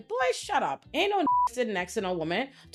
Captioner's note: beep